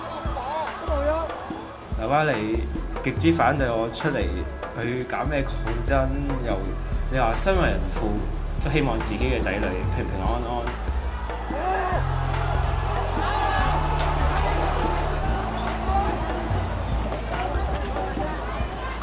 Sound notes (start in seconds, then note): 11.4 shouting